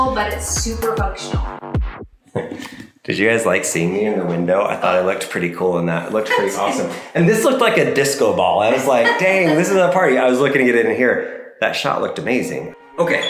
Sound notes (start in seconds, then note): 2.3 chuckles; 6.1 chuckles